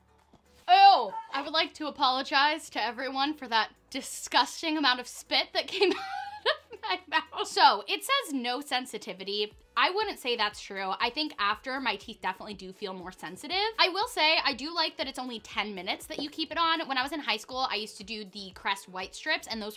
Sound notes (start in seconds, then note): 5.8 laughs